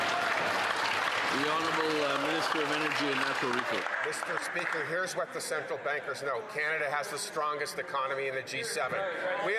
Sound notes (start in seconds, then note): 5.1 some Applause